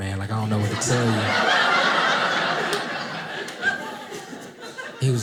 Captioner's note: audience laughing